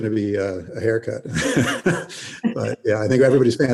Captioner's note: laughing